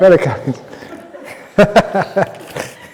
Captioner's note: laughter